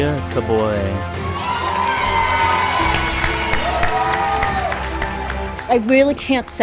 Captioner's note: cheering